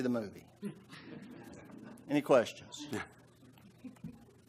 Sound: laugh

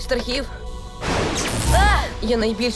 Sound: thunder crashes

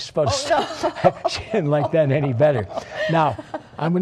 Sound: laughter

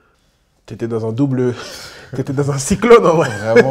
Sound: laughs

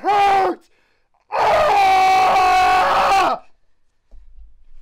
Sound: yelling

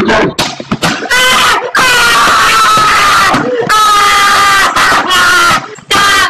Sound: screams beause of cutting pieces

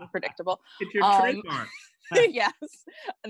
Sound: laughs

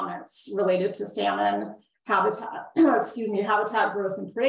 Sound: coughs

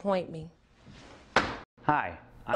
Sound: shoe tap

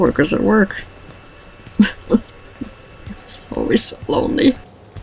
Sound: ugly sobbing

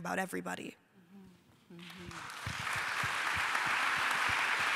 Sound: applause

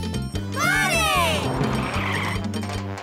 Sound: tires screeching

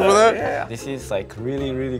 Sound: laughs

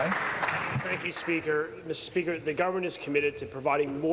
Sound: applause

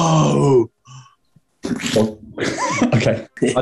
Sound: sniggering

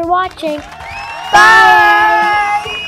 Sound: audience cheering

